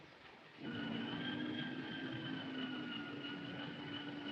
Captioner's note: wind whistling